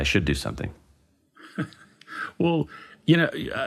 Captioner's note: laughs